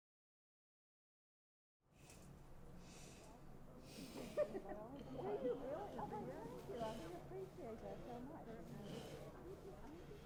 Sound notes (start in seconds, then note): 3.8 people chattering and laughing